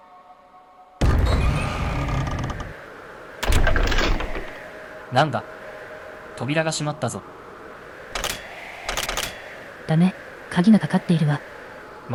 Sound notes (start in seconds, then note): 1.2 whistling of the wind?